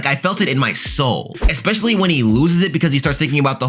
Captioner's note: air whooshing